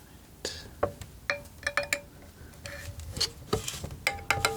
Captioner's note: scratching